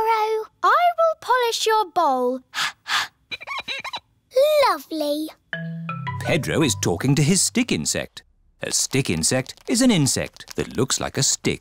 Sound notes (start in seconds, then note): 2.5 exhales; 2.9 glass squeaks